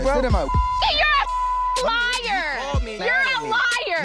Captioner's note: beeping